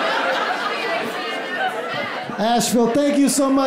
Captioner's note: crowd